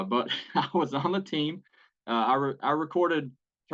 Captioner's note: laugh